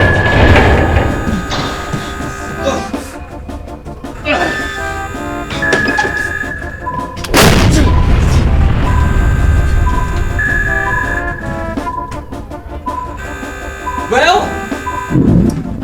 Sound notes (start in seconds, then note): 0.0 alarm Sounding; 0.0 intense Music; 7.3 explosion